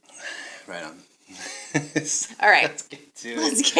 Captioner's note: chuckling